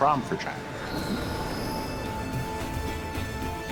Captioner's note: machines shutting down; suspenseful music